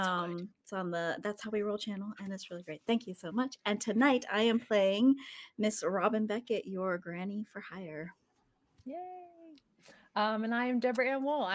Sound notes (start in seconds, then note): 9.3 person cheering